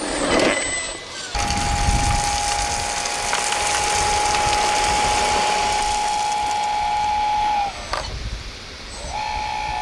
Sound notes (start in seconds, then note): 0.0 truck whirring; 1.3 gravel pattering